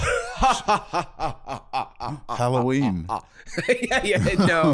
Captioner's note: maniacal laughter